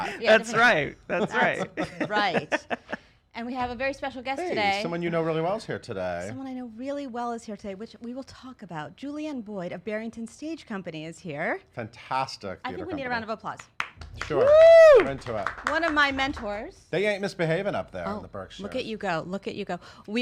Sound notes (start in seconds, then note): 13.6 clapping